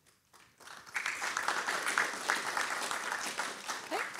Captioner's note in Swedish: Applåder